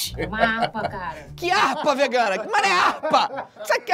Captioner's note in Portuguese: risadas; risadas